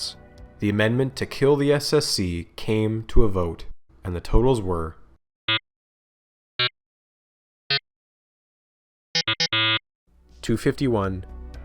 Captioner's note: suspenseful electronic beeping